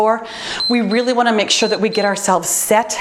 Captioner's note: timer beeps